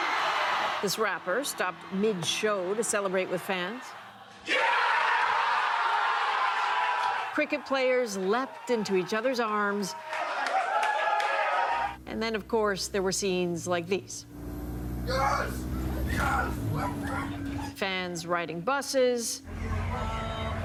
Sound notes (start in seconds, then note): 3.9 cheers and applause; 11.1 cheers and applause